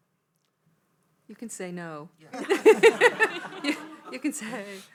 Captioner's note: audience laughing